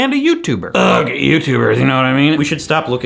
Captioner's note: grunts